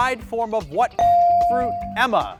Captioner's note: bell ring